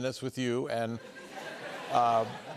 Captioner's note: laughter